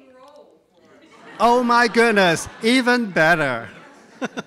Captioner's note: laughs